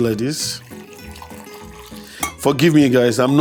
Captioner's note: coffee trickling